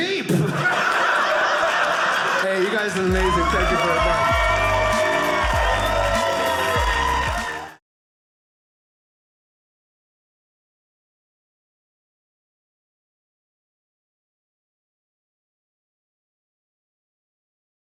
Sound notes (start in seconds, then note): 0.3 audience laughing; 4.0 audience cheering